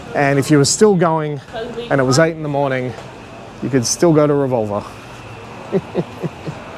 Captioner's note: laughs